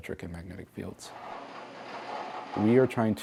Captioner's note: energy crackling